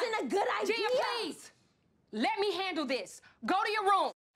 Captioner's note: claps